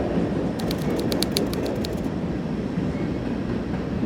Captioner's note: train chugging